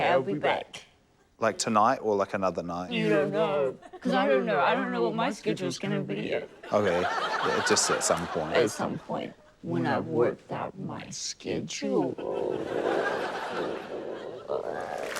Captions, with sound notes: OK. I'll be back. - Like, tonight or, like, another night? - You don't know, cos I don't know. I don't know what my schedule's gonna be yet. - OK. Just at some point. - At some point, when I've worked out my scheduuuullllle. (CROAKS)